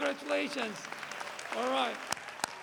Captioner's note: applause